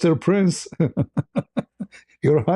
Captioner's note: ketawa